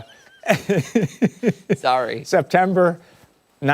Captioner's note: laughter